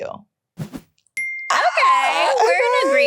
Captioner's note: air whooshing